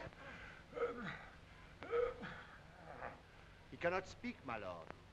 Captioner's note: Charles groaning